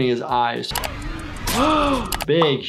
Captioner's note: person gasps